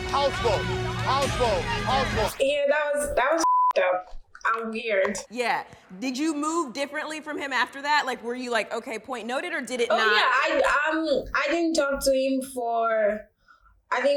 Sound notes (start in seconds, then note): 3.4 beep